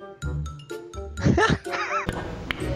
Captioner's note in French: rires